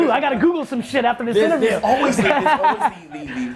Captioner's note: Gary laughs